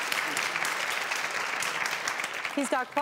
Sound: audience applauds

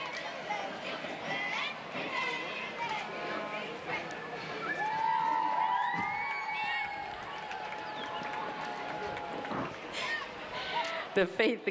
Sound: cheering

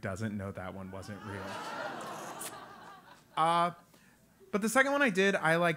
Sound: laugh

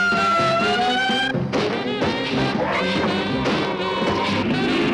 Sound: siren blaring; gun firing

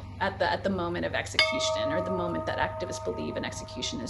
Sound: bell tolls

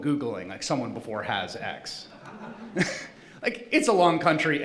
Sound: laughing

